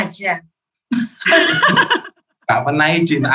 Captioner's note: laughing